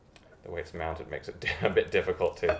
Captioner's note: chuckles